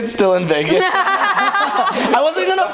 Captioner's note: laughing